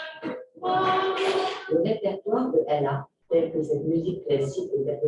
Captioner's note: non-english speech